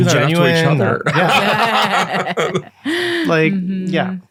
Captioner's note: all laughing